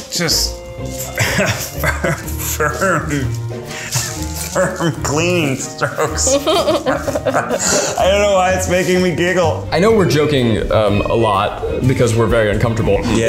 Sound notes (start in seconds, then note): 5.8 both laughing